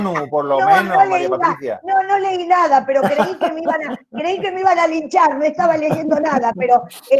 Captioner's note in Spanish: Risas; risas